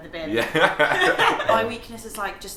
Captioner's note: laughs